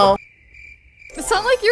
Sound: cricket chirps

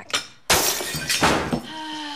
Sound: plates shatter; moans

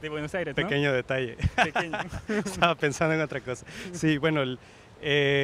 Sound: loughs

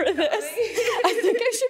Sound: both laughing

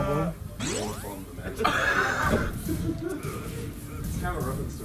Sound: laugh

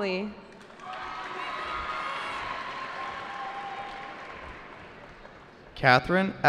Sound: cheering

